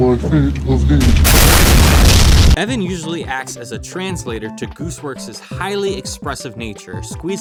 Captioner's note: explosion